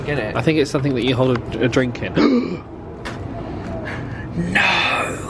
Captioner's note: gasps